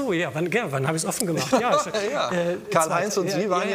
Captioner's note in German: lachend